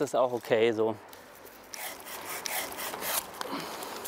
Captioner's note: cutting noises